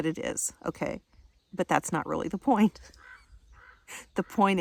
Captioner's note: laughing